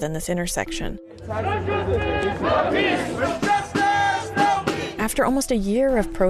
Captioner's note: chanting